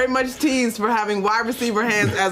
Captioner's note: laughter